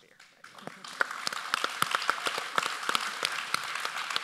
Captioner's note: audience applauds